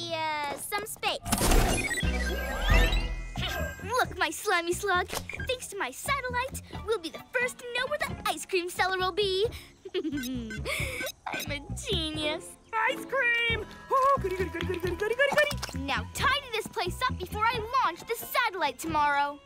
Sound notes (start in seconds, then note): 9.8 chuckles